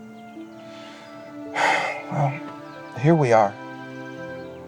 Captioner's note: sighs